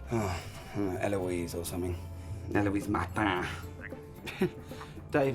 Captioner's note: French accent